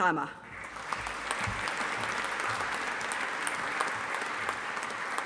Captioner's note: audience applauding